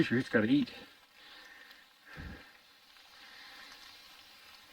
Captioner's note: rain pattering